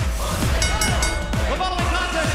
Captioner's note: bell ringing